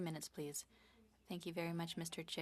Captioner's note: speaking French